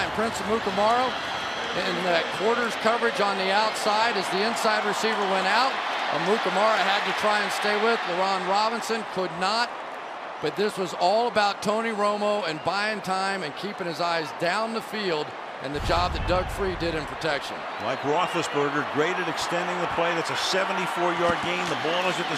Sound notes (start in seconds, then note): 3.3 cheering